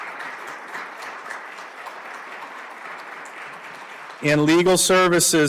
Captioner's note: applause